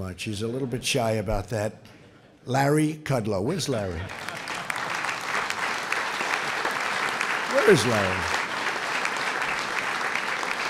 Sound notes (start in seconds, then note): 4.0 applause